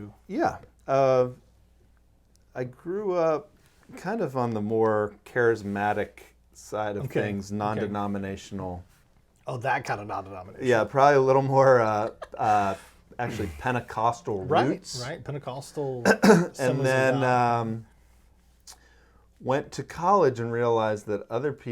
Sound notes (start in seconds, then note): 11.9 laughing